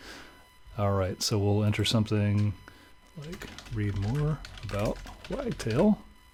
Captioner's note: keyboard clattering